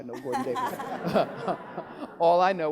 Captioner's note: laughing